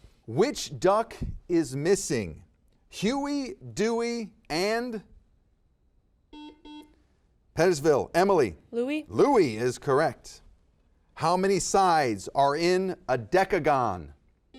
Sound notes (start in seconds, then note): 6.3 buzzer beeps